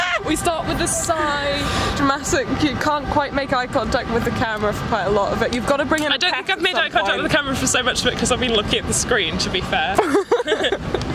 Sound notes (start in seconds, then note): 7.2 beeping noise in background gets quietier; 9.8 beeping noise in background gets quietier; 10.0 laughs